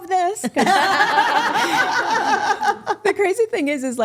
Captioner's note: group laughing